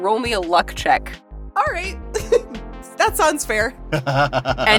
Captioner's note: chuckles